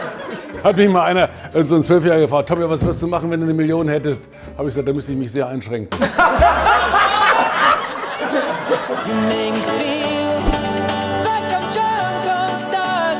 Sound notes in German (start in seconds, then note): 6.2 Lachen